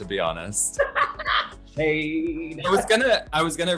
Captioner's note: laughter